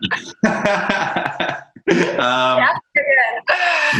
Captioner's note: laughs